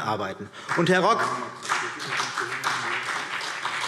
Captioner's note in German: Beifall CDU und BÜNDNIS 90/DIE GRÜNEN